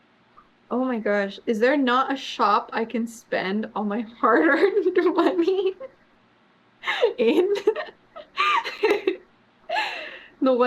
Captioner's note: laughs